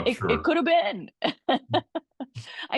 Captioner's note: laugh